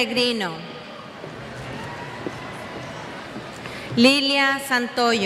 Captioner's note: cheers